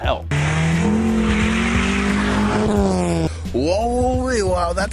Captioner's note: car engine roaring